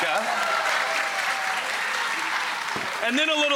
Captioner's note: audience clapping